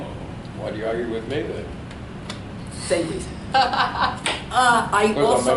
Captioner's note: laughs